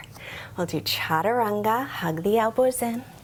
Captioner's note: speaks in foreign language